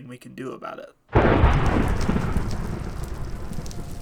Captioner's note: fire crackling; thunder